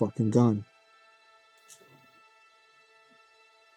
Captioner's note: footsteps